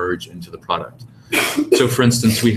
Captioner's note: cough